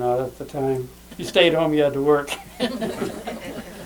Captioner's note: laughs